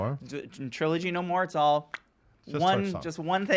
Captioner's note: clicks